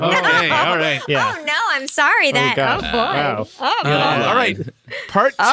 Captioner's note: laughter